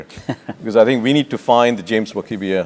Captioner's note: laugh